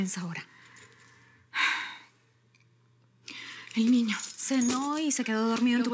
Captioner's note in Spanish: Suspiros